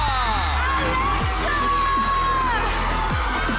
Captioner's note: audience cheering